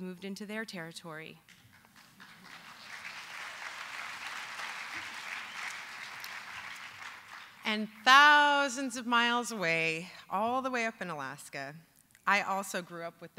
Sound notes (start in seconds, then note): 3.1 applause